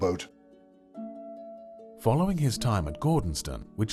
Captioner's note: voiceover